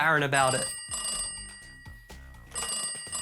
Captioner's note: phone rings